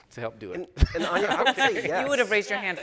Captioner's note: chuckles